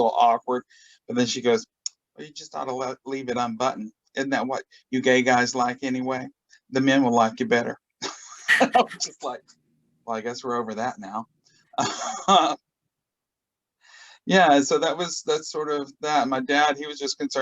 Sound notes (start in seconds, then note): 8.4 laughs